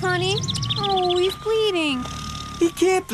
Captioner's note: tongue clicks